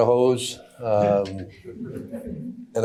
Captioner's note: audience chuckling